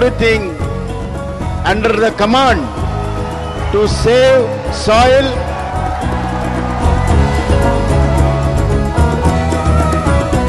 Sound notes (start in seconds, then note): 6.4 cheering/Applause